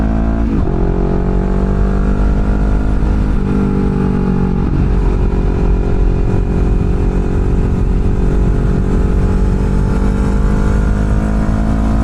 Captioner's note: exhaust Note